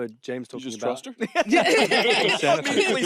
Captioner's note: all laughing